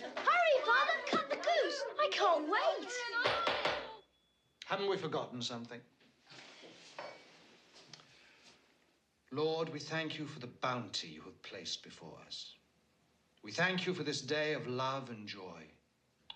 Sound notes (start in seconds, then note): none